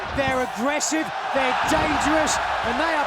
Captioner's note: fans cheering